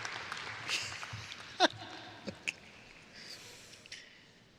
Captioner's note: laughs